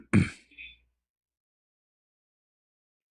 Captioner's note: clears throat